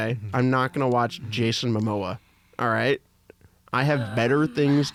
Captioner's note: groans